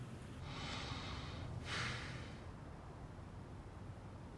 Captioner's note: man sighs